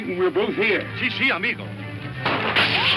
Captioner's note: Mike speaks in foreign language; guns firing